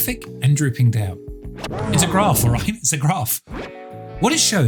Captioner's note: record scratching